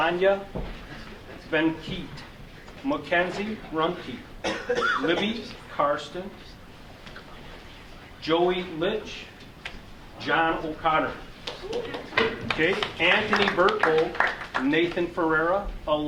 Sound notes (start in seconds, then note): 11.4 audience clapping